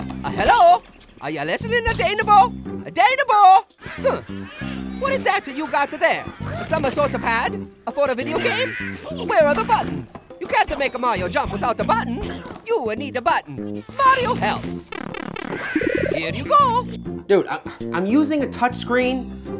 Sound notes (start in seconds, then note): 14.9 blipping